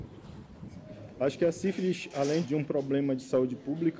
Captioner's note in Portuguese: Voz masculina